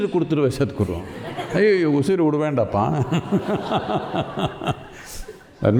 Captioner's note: speaks in Tamil; laughter; speaks in Tamil; laughter